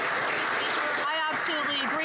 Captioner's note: some Applause